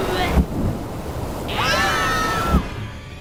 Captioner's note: scream